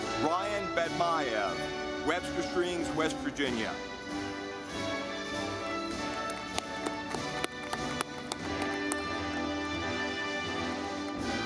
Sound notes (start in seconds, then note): 4.2 audience clapping